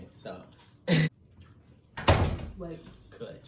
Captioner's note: door closes